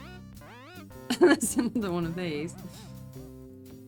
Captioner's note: laughing